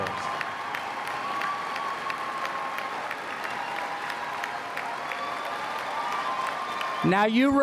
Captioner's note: applause